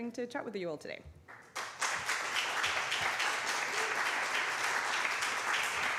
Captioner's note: applause